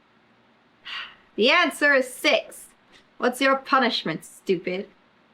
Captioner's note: sighs